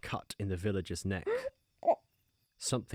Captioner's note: penny gasps, gags